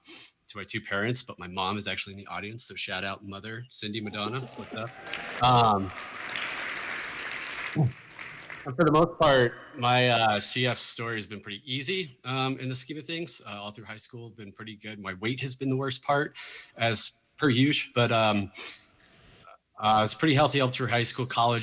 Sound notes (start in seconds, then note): 4.0 applause